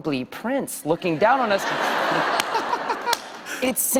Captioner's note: laughter